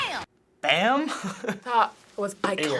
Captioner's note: chuckles